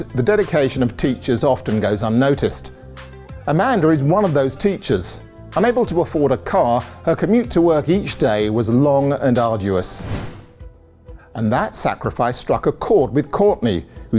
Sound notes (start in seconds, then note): 9.9 air whooshing